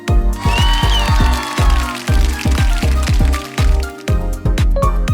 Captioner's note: applause on board